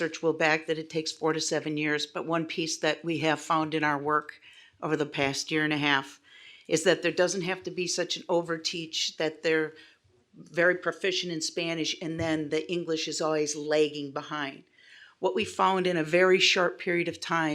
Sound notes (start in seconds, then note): none